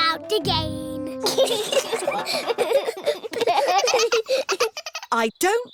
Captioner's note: all giggling